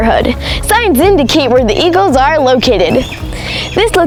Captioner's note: eagle quacks